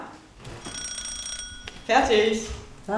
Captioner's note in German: Klingeln der Eieruhr